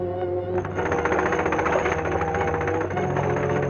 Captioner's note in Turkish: Tek silindirli motorun egzos sesi